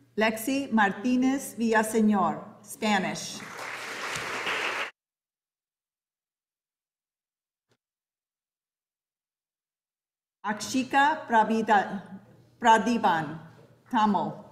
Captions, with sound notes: Lexi Martinez Villasenor, Spanish. (audience applauding) Archika Pradivan Pramo.